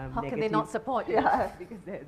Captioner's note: laughing